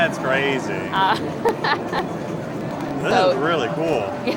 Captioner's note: laughs